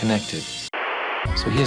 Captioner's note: static